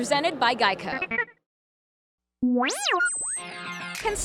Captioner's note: BB-8 beeps